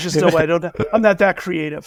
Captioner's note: laughter